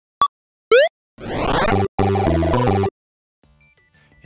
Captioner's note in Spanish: efectos de sonido de juego